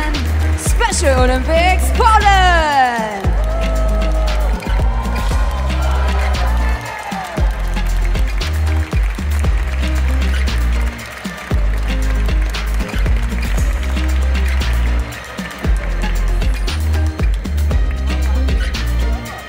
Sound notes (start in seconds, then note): 3.1 applause; 3.1 ♫ Midtempo guitar music ♫; 4.9 Polish team makes mexican wave sound to audience and audience joins; 8.9 applause; 8.9 ♫ Midtempo guitar music ♫